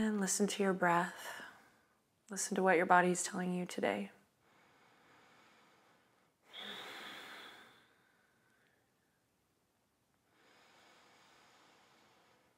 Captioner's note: inhales and exhales